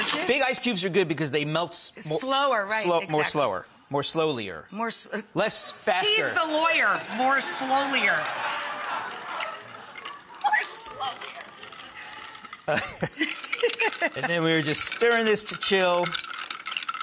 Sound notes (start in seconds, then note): 7.0 audience laughing; 12.6 laughing